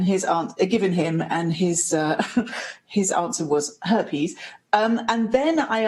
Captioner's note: chuckles